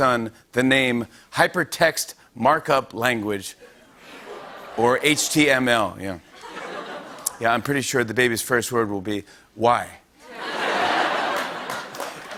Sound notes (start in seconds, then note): 5.7 audience groans; 10.2 laughter